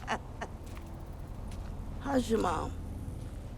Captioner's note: Joyce laughing